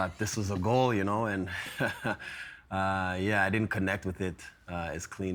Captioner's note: laughing